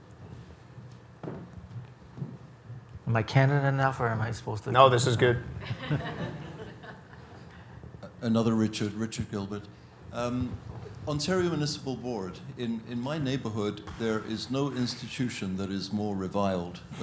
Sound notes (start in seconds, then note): 5.6 audience chuckles; 8.1 voiceover